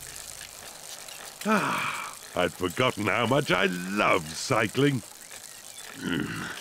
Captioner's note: sighs happily; grunts